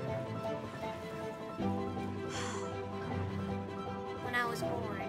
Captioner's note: sighs